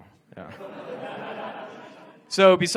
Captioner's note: audience laughs